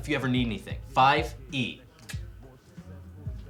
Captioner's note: clicks tongue